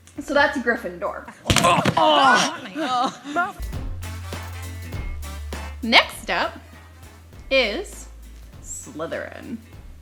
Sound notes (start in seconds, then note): 1.5 thuds; 1.6 grunts and groans; 3.5 fun, bouncy music